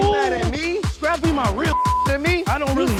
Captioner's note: beep